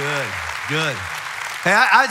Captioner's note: audience applauds